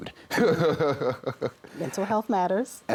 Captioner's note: chuckles